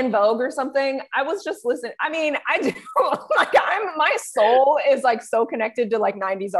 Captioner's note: both laugh